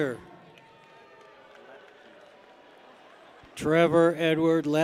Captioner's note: people cheer